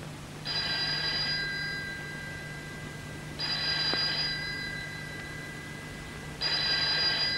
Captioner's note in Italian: trilli del telefono